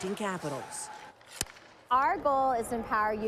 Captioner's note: puck thuds